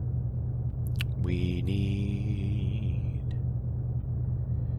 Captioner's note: sing songy